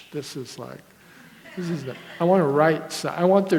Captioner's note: audience laughter